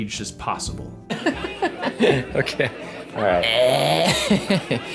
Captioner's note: laughing